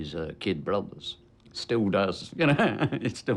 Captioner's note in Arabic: يضحك